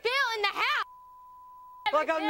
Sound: beep

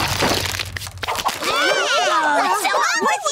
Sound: yelling

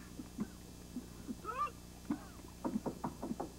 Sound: knocking

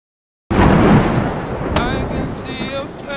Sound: thunder banging

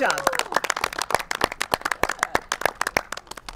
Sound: contestants applaud

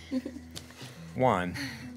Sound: giggles

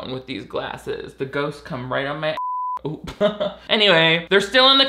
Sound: beep

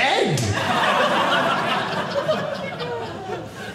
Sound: audience laughing

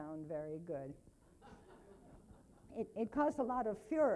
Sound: laughing

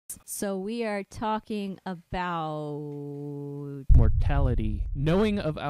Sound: muffled boom

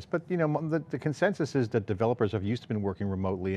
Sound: stutters

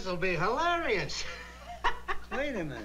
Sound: laughs

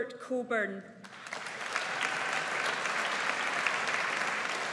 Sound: audience applauds

